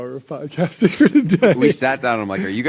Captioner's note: laughs